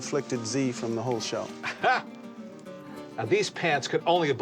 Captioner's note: chuckles